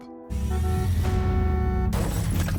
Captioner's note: car horn beeping